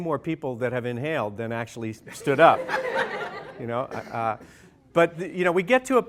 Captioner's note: laughter